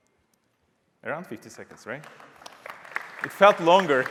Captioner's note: applause